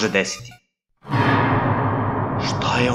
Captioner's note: horror sound